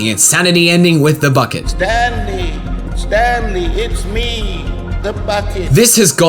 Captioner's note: nasally